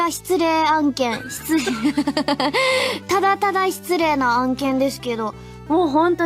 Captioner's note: laughs